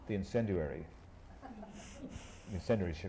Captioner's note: laughter